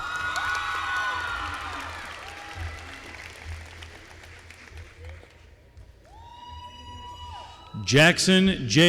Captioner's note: applause